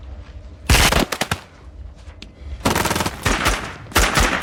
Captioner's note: guns firing